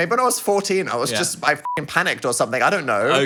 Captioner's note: beep